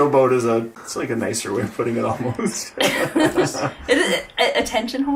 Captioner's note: laughing